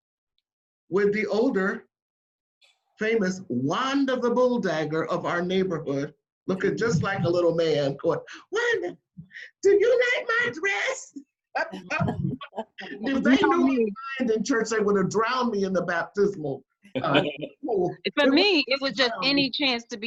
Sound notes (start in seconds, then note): 11.6 laughs; 11.6 voice cuts out